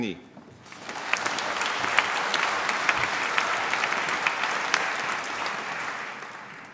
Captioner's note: applause